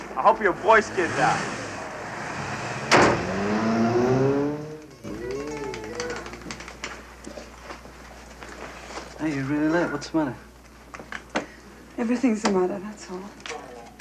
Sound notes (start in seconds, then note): 2.4 motorbike revs; 2.8 door slams; 5.1 electric guitar music; 5.1 fingers slapping